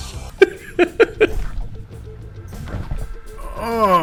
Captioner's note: laughing